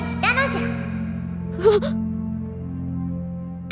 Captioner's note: gasp